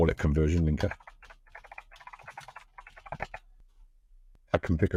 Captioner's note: keyboard typing